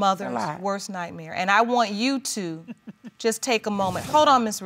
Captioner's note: laughing